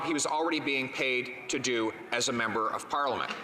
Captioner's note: none